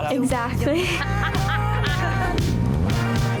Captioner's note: laughing